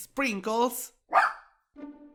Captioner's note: sprinkles barks